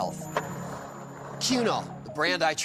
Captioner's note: skateboard wheels roaring